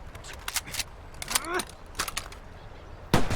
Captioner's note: fixing gun, groaning